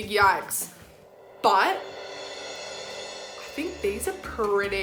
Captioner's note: gong chiming